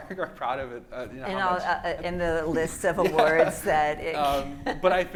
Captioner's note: laugh